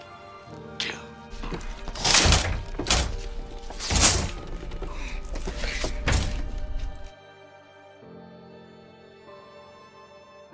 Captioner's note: bangs and thuds